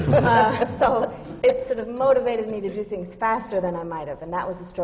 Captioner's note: laughter